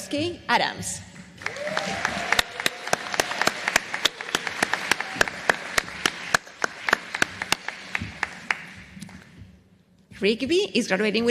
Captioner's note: applause